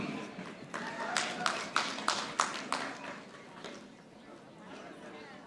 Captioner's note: audience applauding